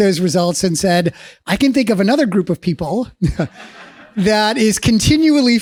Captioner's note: laughs